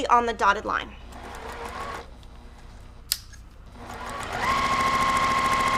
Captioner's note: machine whirring